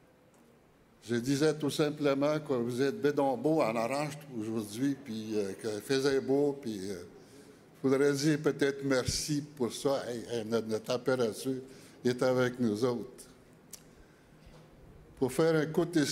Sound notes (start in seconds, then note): 1.7 speaking Indigenous Language; 6.7 speaking French